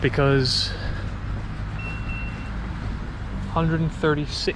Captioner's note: GARMIN chimes